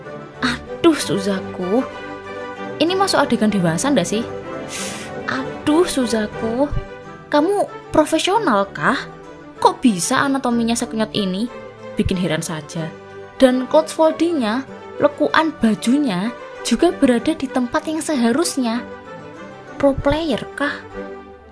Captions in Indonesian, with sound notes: Aduh, suzaku! ini masuk adegan dewasa gak sih sshhh... (tarik napas) Aduh, suzaku!! kamu profesional kah!? kok bisa anatominya sekenyot ini? bikin heran saja dan cloth foldingnya, lekukan bajunya juga berada di tempat yang seharusnya pro player kah?